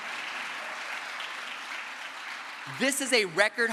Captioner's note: crowd applause